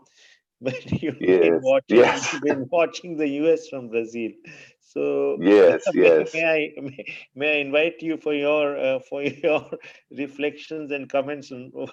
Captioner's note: laughter